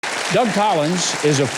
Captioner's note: applause